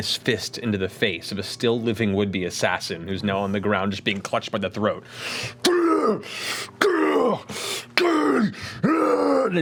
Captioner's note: roars